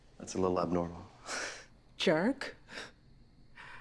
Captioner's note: laughs